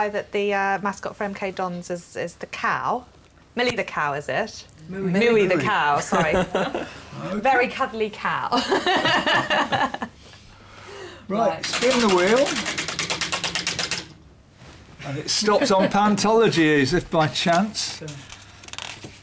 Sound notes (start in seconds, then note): 6.0 laughter; 8.6 laughs